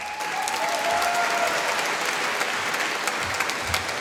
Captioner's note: applause